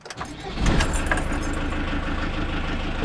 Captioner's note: engine starts